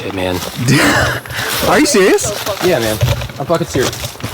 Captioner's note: laughs